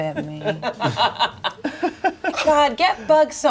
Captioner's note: everyone laughs